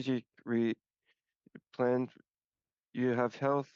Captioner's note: speaking French